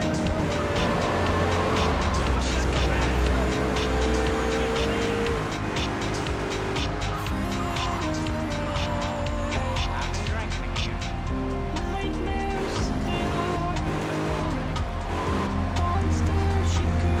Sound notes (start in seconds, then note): 9.5 car engine roaring; 9.5 upbeat music; 11.2 car engine roaring; 11.8 upbeat music; 13.1 car engine roaring